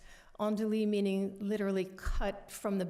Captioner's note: french